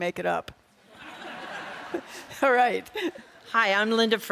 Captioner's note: audience laughs